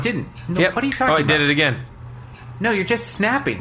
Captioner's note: snaps normally